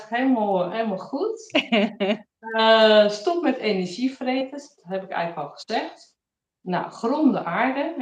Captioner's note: laughs